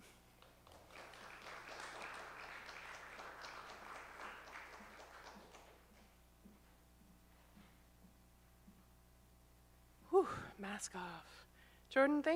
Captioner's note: A round of applause from the audience